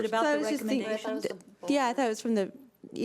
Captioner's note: chattering